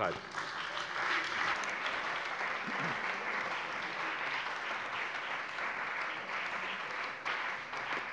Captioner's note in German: Beifall bei der CDU und dem BÜNDNIS 90/DIE GRÜNEN